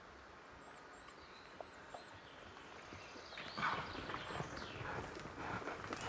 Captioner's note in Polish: śpiew ptaków, w oddali odgłos kościelnych dzwonów